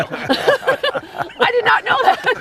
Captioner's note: laughter